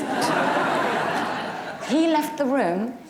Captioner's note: audience laughs